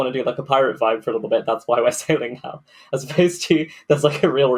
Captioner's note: laughing